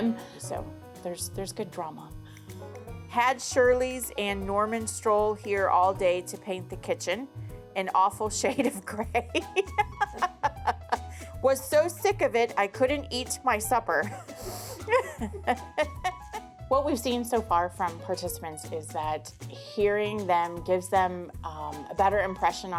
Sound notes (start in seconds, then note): 9.3 laughs; 14.6 chuckles